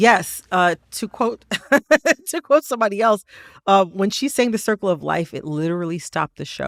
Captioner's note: laughter